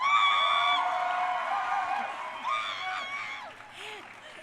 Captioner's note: crowd cheering